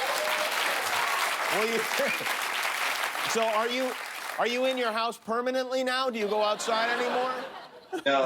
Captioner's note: cheers and applause